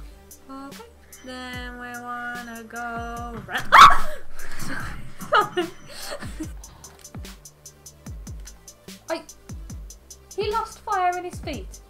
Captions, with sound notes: o.k then we wanna go *jumpscare scream* Sor.. *laugh* sorry *laugh* he lost fire in his feet